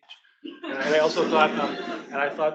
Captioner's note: attendees laughing